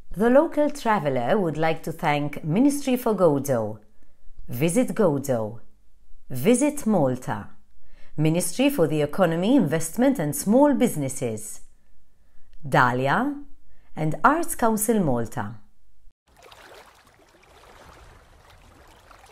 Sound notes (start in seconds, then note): 16.2 gentle waves